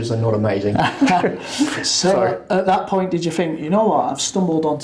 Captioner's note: laughs